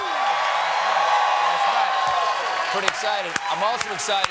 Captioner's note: cheers and applause